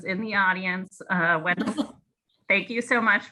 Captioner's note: laughs